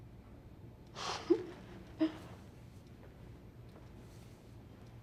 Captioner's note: Jane laughs